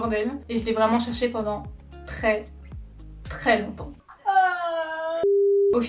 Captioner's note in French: cri